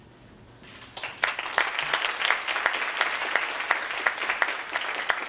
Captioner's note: audience applauding